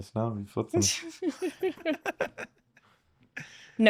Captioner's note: laughing